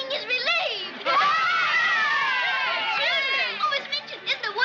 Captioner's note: girls cheering